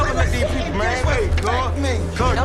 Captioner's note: beeping